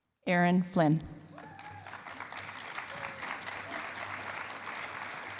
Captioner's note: applause